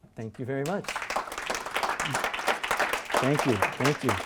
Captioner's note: applause